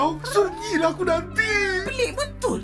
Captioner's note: purrs and meows